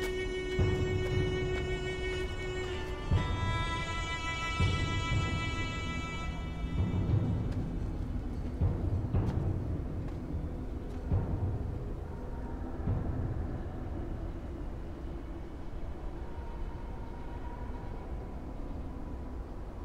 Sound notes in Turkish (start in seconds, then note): 0.0 Adım Sesleri; 2.9 Uğultu ve Takırtı Sesleri